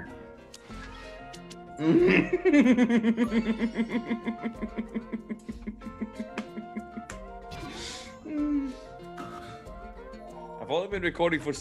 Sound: laugh

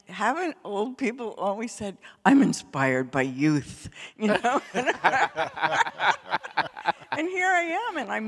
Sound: laughter

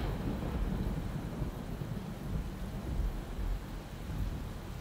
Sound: thunder roaring; rain

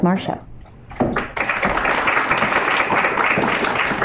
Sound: applause

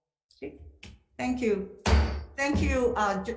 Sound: gavel banging

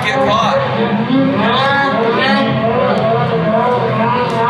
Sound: snowmobile engine whirring

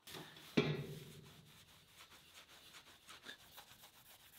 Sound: rag rasping lightly

